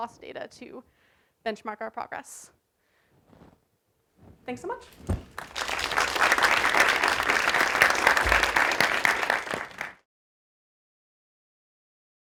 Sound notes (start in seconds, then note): 5.2 applause